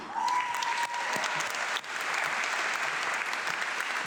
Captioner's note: audience clapping